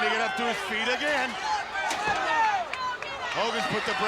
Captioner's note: crowd yelling